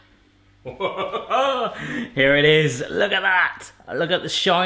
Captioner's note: chuckles